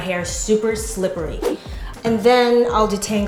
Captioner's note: swoosh